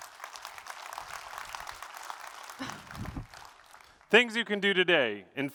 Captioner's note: applause